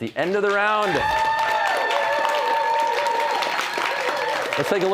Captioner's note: cheers and applause